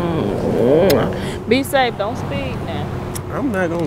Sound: kissing

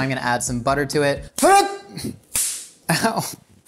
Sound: yelps; slapping

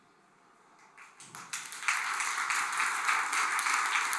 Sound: applause

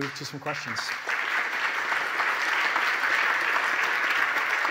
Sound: audience applauding

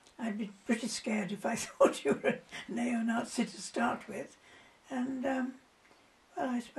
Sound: laughs

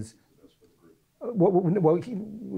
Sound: voiceover

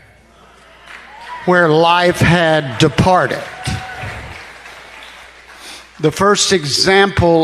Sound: congregation applauding

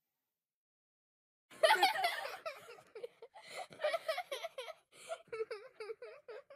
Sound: children laughing and giggling

